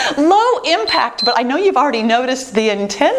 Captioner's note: timer beeps